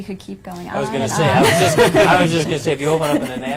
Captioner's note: panel laughing